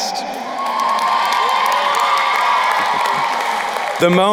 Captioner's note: crowd cheering and applauding